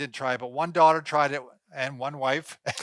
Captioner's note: laughing